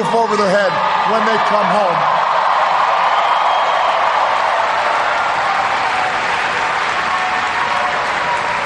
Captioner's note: cheers, applause